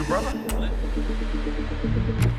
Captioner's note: spits